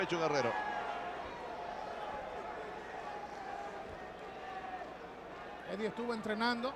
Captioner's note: applause